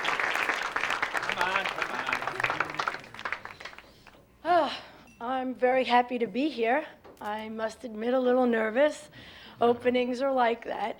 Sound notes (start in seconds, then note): 3.2 sighs; 4.9 on microphone